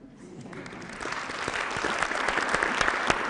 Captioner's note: applause